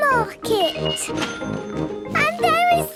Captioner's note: cash register dinging